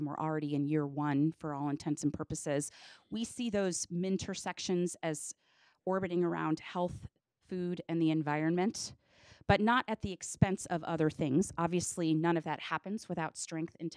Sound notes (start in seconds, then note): none